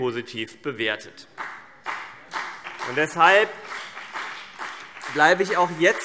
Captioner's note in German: Beifall CDU und BÜNDNIS 90/DIE GRÜNEN